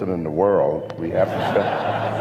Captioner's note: laughter